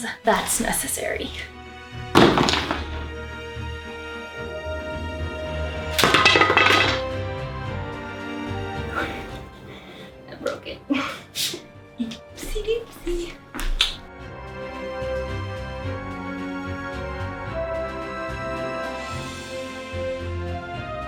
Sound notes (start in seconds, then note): 2.1 clunk of shoes on floor and scattering of metal butterflies; 5.9 splintering of wood, clattering to floor; 14.5 more magical music